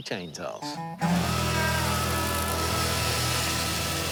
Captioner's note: chainsaw buzzing